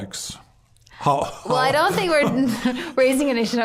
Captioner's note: laughing